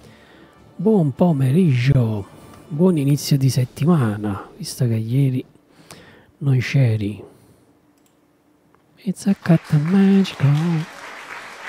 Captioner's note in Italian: Applauso